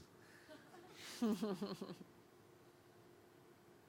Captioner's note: laughing